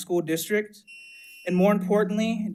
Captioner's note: timer beeps